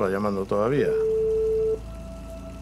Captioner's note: ring tone